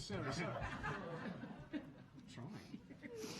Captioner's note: audience laughing